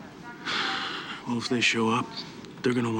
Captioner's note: sighs